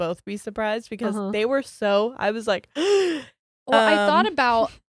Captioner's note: gasps